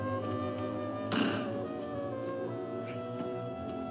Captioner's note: ominous music; bang